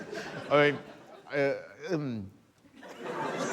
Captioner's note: laughter